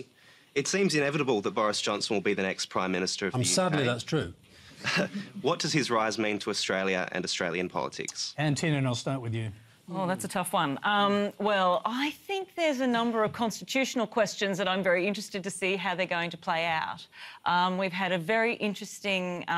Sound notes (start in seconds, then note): 4.8 chuckles